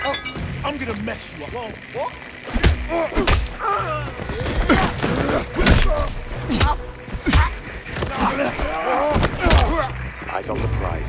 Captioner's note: groaning